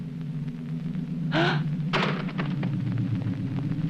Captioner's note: gasping